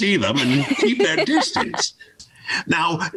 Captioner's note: laughs